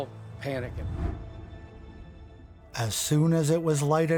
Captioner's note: air whooshing